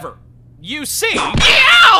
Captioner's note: whip crack!